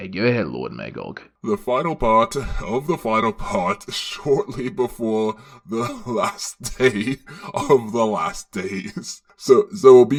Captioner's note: devolves into laughter